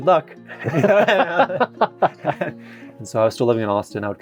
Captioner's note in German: beide lachen